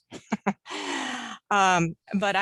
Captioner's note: chuckles